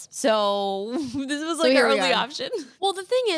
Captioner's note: laughs